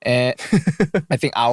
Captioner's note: laughing